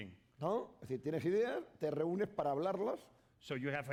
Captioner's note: speaking spanish